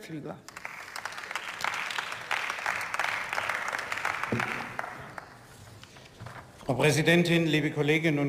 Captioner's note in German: Beifall